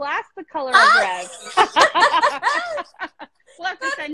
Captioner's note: both laughing